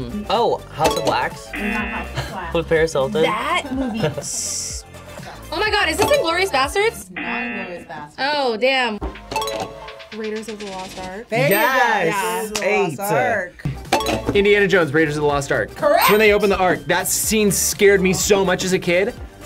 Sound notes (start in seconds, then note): 7.0 klaxon sounds; 9.3 bell dings; 13.8 bell dings